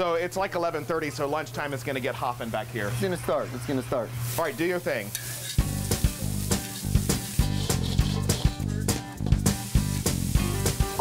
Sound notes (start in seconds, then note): 5.2 sound of food frying on grill